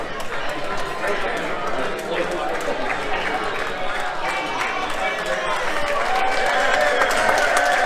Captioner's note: applause